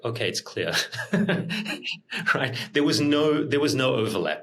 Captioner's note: laughs